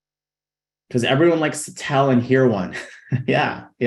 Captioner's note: chuckling